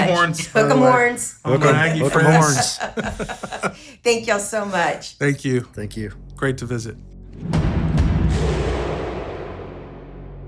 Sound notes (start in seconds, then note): 2.4 laughing; 7.3 drums pounding